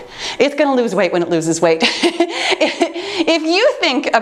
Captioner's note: laughs